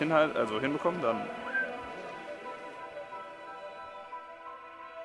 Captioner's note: whistles